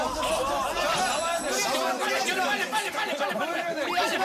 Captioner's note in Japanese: 真剣 / このまま引き下がるわけにはいかない